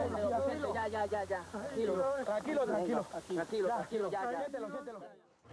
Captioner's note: Spanish spoken audio